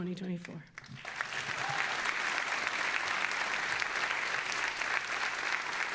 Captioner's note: all applauding and cheering